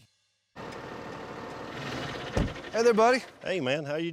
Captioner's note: tractor engine